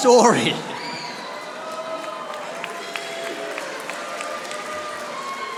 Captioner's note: audience applauding